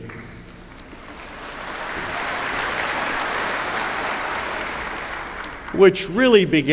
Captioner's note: applause